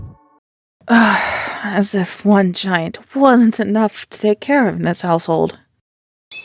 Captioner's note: sigh